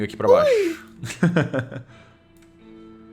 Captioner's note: laugh